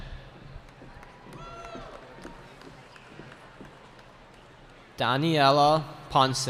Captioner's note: cheering